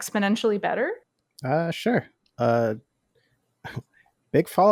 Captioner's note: slight laugh